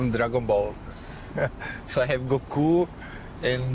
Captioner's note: chuckles